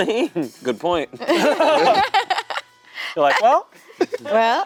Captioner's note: everyone laughing